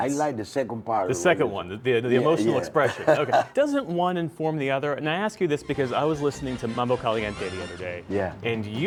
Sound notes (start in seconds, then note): 2.8 laughter